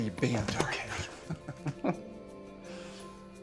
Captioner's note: laughing